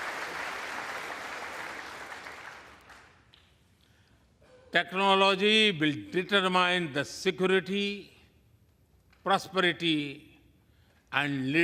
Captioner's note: applause